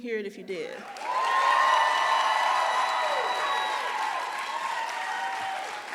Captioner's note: audience cheering and applauding